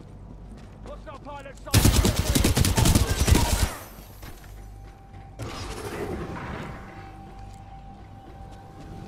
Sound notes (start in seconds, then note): 1.8 radio